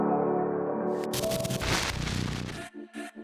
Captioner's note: distorted static